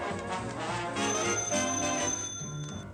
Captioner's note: phone rings